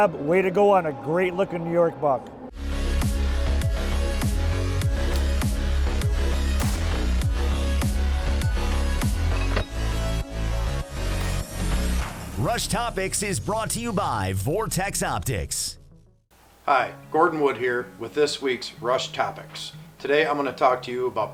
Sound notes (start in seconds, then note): 2.6 upbeat music; 6.5 arrow shoots